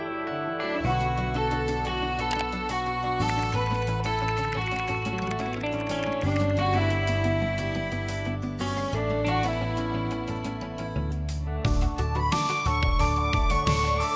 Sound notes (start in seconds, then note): 3.2 typing; 11.8 hopeful music playing